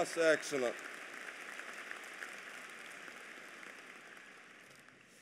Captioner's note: applause